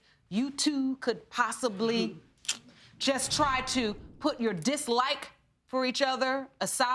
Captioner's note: clicking tongue